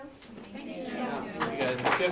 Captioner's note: applause